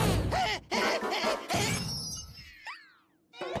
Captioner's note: laughing